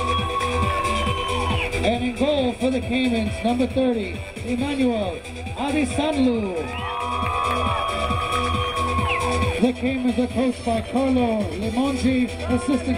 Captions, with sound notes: and in goal for the Caimans number 30 Emmanuel Adesanlu. (crowd cheering) (crowd applauding) The Caimans are coached by Carlo Lemangi,